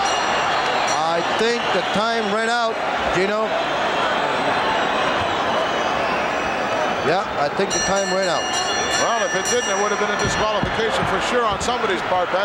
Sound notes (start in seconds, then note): 7.6 bell ringing